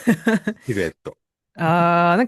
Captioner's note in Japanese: 笑い